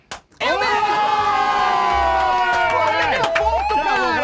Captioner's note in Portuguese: equipe gritando; equipe gritando